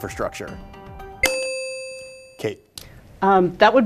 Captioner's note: ding